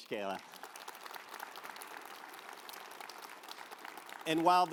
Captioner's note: audience applauds